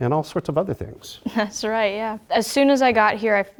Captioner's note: laugh